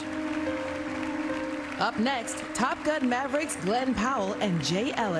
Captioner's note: applause